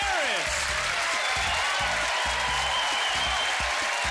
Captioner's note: crowd cheering